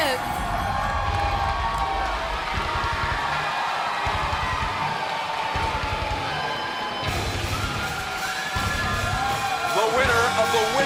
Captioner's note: crowd cheering